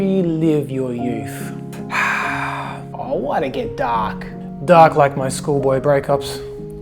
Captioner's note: sighs and gasps